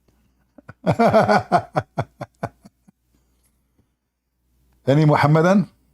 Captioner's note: Ketawa